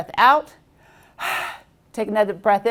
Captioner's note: exhales